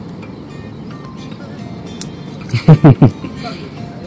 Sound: laughing

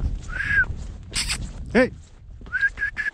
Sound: whistles

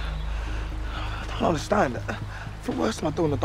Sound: breathing heavily

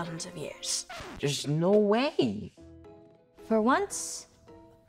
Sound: record scratches

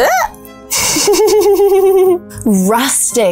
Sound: shrieks; laughs nervously

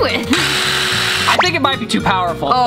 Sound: drill buzzes

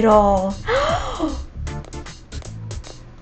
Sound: gasps

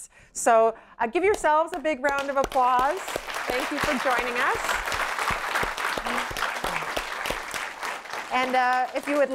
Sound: applause

